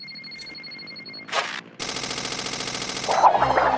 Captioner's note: rattling